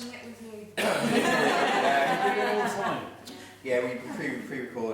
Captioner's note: laughing